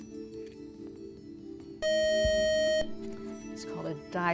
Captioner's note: buzzer